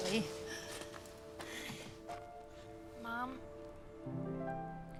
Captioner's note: none